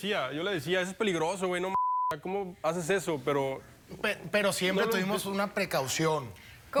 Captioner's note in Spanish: Bip